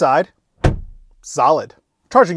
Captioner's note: door closes